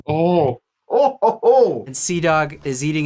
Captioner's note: laughing